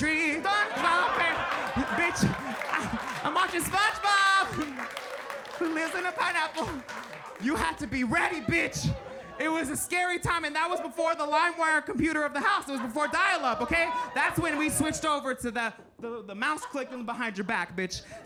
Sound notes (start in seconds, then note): 1.3 audience laughing and applauding